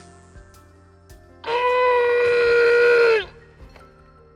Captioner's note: growling